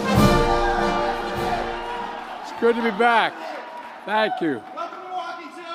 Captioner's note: applause